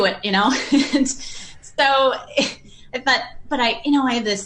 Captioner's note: laughs